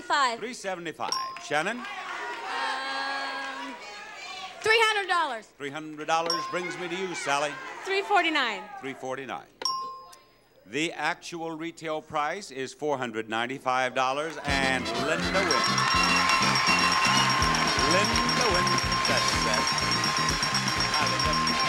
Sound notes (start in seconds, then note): 14.3 audience cheering; 17.1 lively music